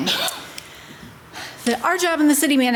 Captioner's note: breathes deeply